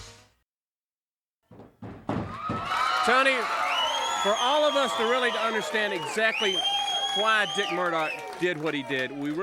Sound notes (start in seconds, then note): 2.4 crowd cheering